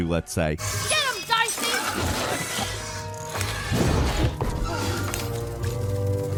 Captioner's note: characters yelling and grunting